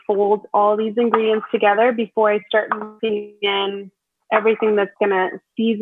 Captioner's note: audio distorts